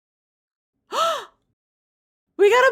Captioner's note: gasp